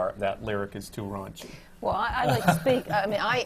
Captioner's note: laughs